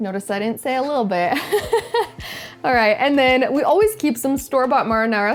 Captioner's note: laughs